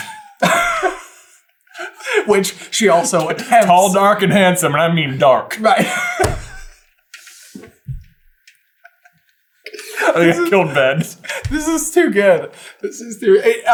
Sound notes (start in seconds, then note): 0.0 laughing; 6.2 wheezing laughing to silence